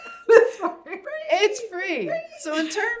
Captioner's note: laughs